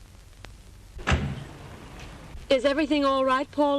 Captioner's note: car door closes